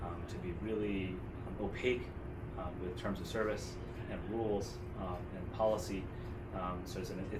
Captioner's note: none